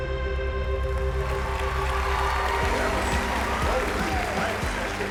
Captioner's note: cheering and applause